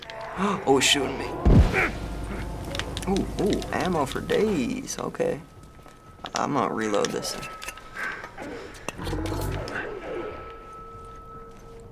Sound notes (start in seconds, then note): 0.1 Bloater growls; 0.7 gasps; 1.4 spores burst, Joel grunts; 8.0 Bloater growls in distance